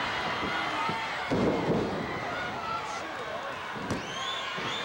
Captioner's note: floor banging